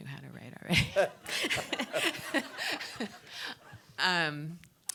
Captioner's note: everybody laughing